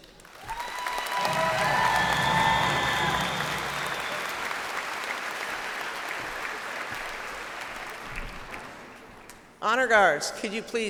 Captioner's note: cheers and applause